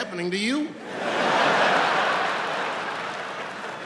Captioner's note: laughing